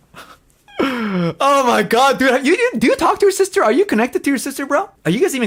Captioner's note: laughs